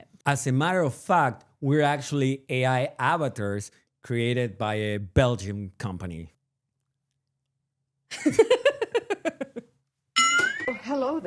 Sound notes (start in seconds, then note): 8.1 laughter